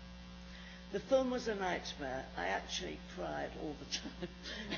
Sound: laughs

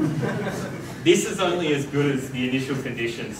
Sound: audience laughs

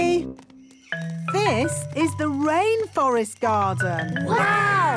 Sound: rainforest sounds

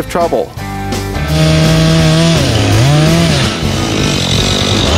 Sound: chainsaw cutting

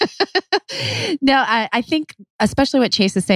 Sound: laughs

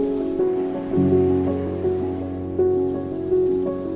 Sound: wind blowing; waves crashing; calm music continues

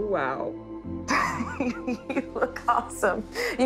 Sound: chuckling

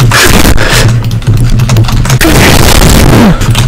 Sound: angry breathing

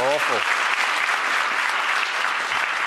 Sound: applause

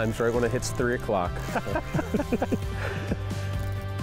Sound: the guys laugh

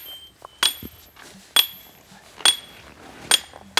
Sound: chiselling

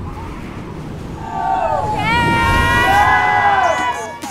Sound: cheering

